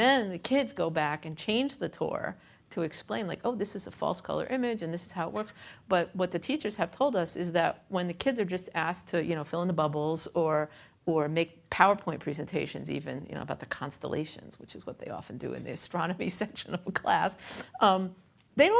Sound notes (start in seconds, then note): none